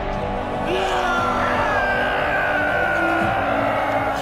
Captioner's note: screams